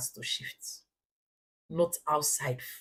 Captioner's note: paause